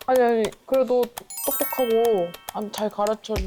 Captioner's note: Elite sound effect